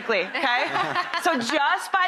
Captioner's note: laughter